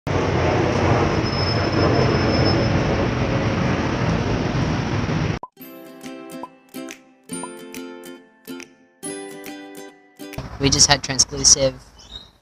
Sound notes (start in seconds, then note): 0.1 traffic noises; 5.7 popping and background music